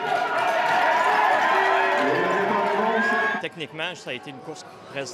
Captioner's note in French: cris et applaudissements; cris d'encouragement